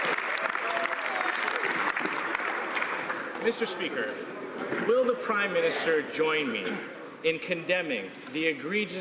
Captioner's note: some Applause